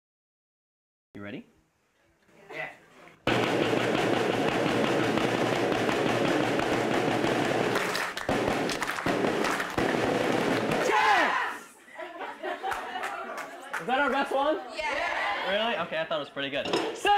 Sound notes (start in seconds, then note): 3.2 drum playing; 8.0 students clapping